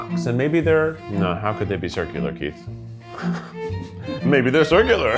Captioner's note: chuckles